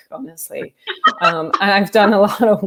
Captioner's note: laughter